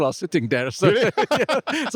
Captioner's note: both laughing